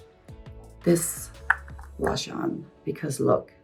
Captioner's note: tub clicking